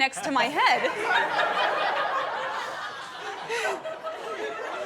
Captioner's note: guests laughing